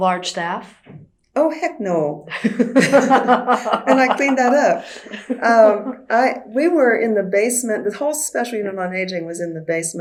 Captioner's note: laughter